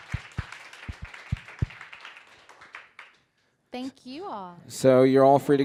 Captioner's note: applause